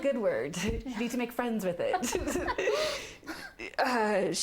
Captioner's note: laughing